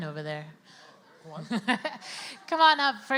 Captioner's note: laughs